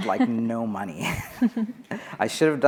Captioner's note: laughing